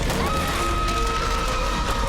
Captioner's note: scream